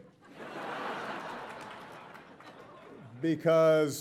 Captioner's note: audience laughing